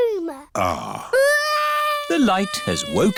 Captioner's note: crying